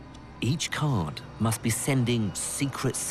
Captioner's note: voiceover